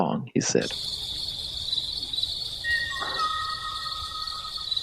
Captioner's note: ōʻō bird mating call